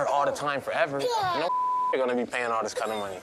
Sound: beep

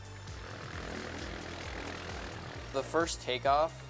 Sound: plane engine starts

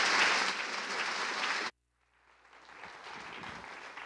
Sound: applause

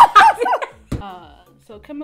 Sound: laughs

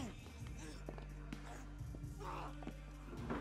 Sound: screaming

